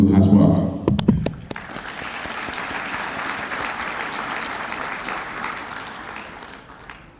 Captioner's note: applause